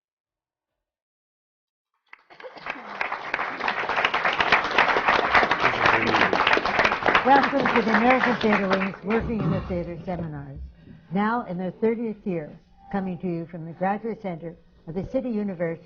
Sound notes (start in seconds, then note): 2.1 applause